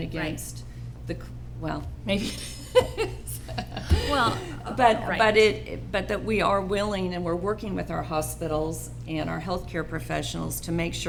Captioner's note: laughter